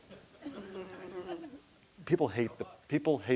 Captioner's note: audience laughing